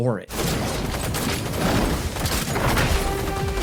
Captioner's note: gunshots boom; dramatic music